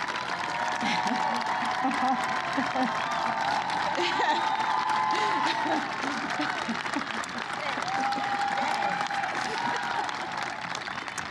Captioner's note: applause